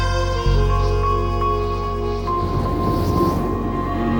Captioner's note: wind blowing